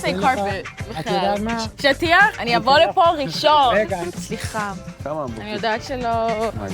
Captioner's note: all three conversing in foreign language